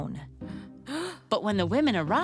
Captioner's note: gasps